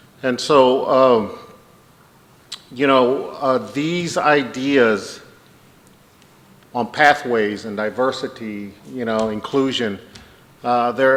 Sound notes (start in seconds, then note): none